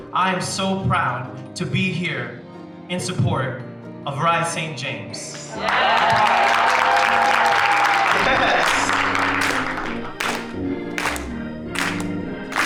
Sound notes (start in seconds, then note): 5.5 crowd cheering; 8.9 church music playing